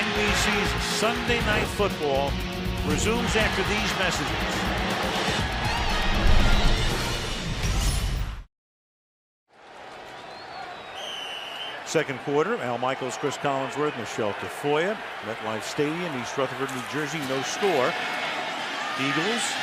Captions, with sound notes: And NBC's Sunday Night Football resumes after these messages. [whistle blowing] Second quarter. Al Michaels, Cris Collinsworth, Michele Tafoya. MetLife Stadium, East Rutherford, New Jersey. No score.